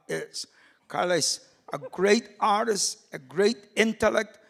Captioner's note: laughing